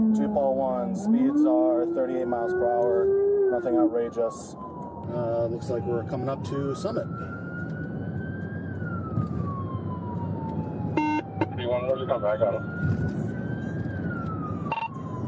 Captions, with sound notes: To Paul 1, speeds are 38 miles per hour Nothing outrageous Uh, looks like we're coming up to Summit (Radio chatter) I got him